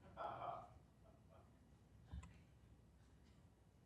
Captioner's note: audience laughs